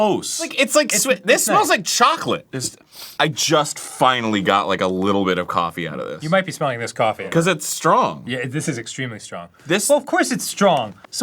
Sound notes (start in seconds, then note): 2.8 second opinion sniff